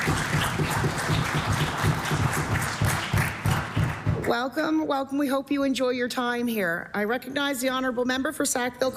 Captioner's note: applause